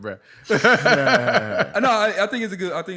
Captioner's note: laughter